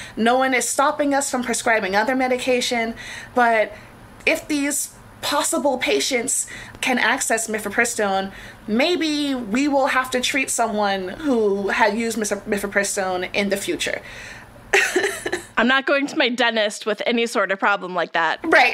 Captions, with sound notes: No one is stopping us from prescribing other medication, but if these possible patients can access mifepristone, maybe we will have to treat someone who had used mifepristone in the future. [laughs]. I'm not going to my dentist with any sort of problem like that.